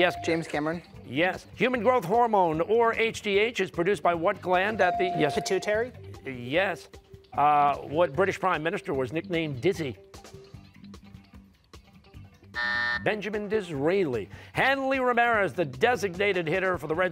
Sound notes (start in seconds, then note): 12.5 buzzer